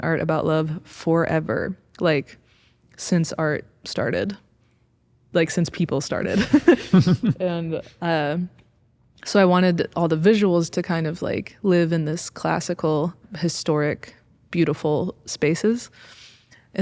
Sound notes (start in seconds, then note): 6.3 both chuckling